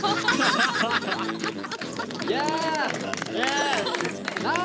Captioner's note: burst out laughing